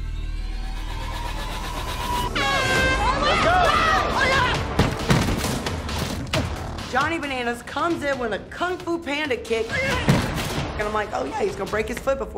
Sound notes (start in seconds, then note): 2.0 air horn blares; 3.6 cheering; 4.7 thudding and crashing